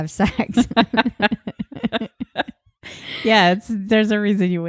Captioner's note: laughing